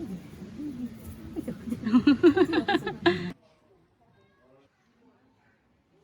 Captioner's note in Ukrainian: сміх